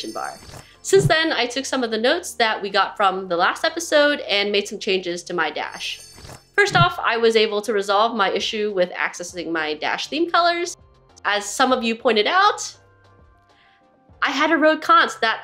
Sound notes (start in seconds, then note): 0.0 jingling sound; 5.8 jingling sound